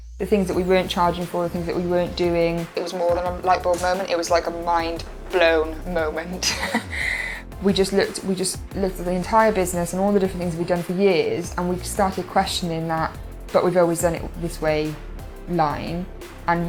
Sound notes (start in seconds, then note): 6.3 laughing